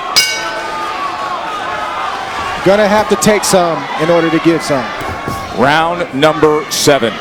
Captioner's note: bell rings